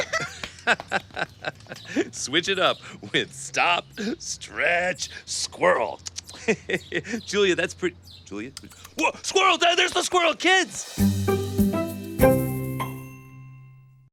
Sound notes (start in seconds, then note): 0.2 laughs; 5.9 munching; 10.8 audio logo